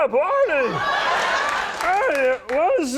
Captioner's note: audience cheers